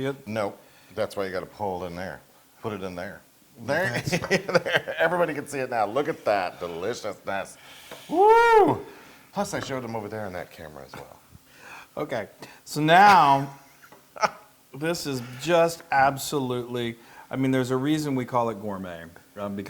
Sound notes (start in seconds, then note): 3.8 laugh